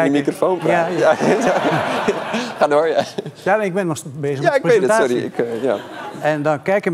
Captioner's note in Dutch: gelach